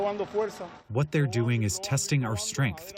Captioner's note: through translator